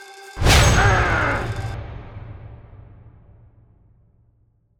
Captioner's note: Cornelius grunting